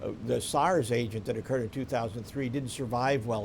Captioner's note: none